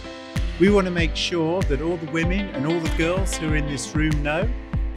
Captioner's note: man with British accent speaking over music